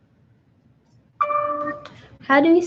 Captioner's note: computer dings